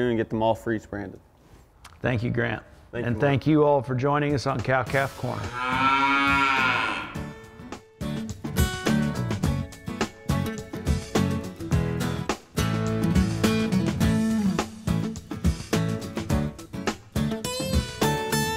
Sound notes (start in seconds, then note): 5.4 cow moos; 7.6 upbeat guitar music